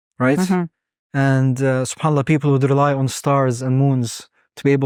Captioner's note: speaking Arabic; speaking Arabic